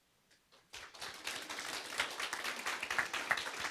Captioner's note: applause